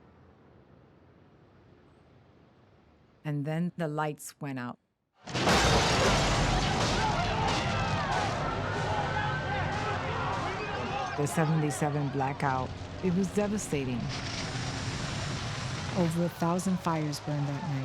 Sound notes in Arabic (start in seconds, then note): 5.1 هدير النار; 6.0 الناس يصرخون; 8.1 صافرات الإنذار تدوي